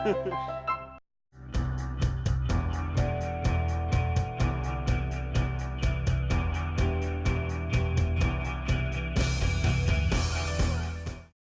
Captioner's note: laughing